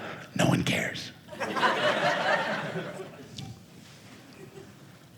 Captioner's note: audience laughing